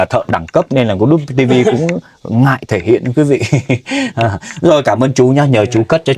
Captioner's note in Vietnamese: tiếng cười